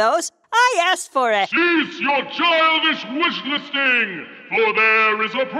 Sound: voiceover

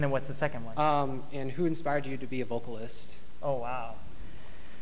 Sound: bright Voice

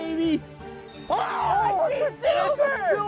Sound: beeping; both shout

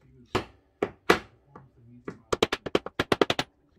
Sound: hammer sound

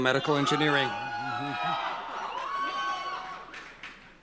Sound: cheering

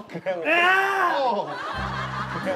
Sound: shouting

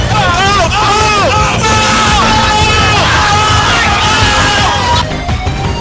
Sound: yelling

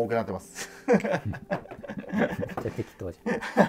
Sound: laughing

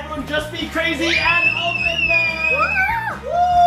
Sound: screaming

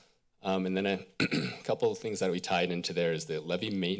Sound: clears throat

